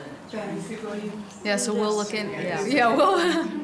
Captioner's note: laughs